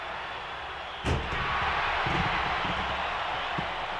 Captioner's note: audience roaring